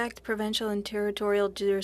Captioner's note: speaking French